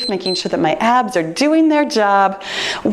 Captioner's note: timer beeps